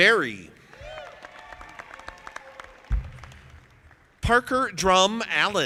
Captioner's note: audience applauding